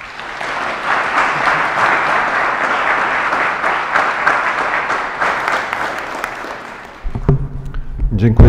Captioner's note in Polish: oklaski